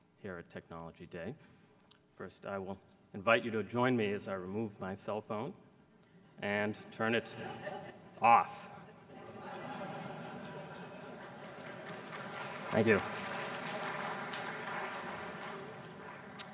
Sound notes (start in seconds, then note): 8.7 laughter; 12.5 applause